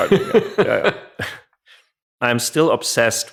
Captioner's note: laughs